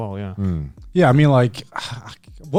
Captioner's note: affirmative murmuring